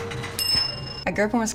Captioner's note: bell ringing